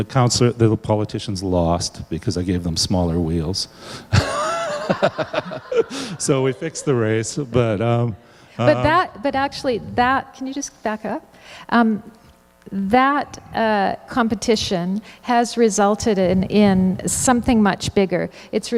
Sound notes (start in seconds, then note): 4.1 laughter